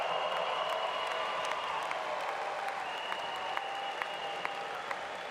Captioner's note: applause